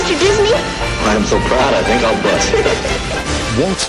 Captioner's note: giggling